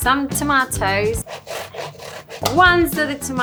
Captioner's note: satisfying grating sounds